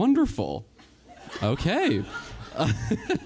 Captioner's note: event host laughs